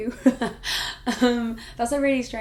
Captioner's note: laughing